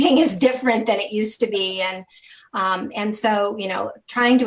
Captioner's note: interviewer laughing; laughing